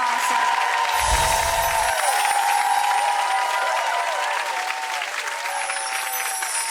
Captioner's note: audience applauding; chiming; chiming